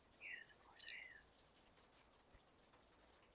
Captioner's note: whispers